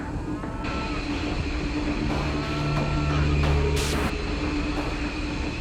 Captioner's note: mooing cattle